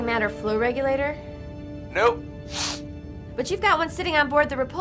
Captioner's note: sniff